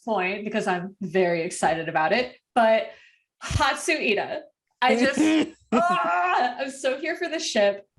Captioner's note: moans